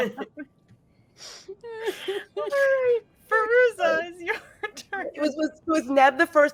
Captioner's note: laughing